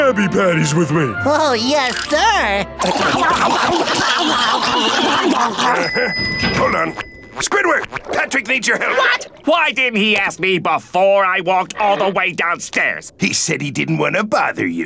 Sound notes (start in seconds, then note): 2.7 scarfing